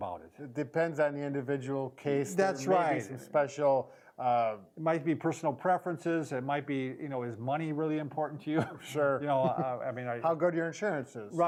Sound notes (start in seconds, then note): 8.4 chuckles